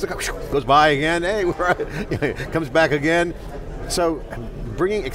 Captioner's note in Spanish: risitas